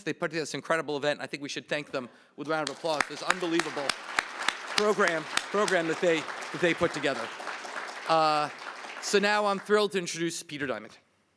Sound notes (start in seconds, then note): 7.3 applause